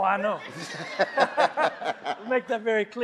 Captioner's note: all laughing